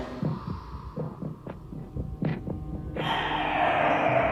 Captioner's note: whooshing